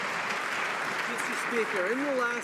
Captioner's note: some Applause